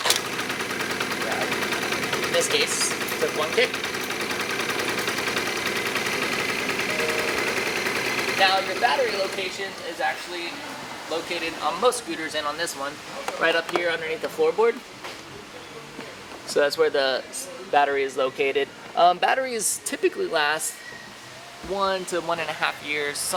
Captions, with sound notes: In this case, it took one kick. (scooter engine idles) Now, your battery location is actually located, on most scooters and on this one, right up here underneath the floorboard. So that's where the battery is located. Batteries typically last one to one-and-a-half years.